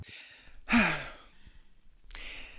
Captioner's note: sigh; inhale